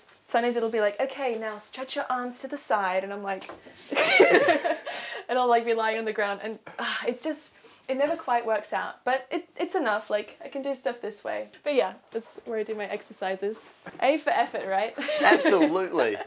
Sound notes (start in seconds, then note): 3.9 laughter